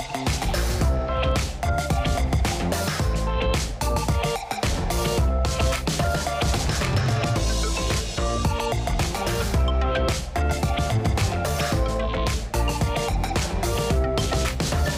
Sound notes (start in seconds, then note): 0.8 applause